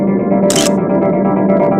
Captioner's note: photo click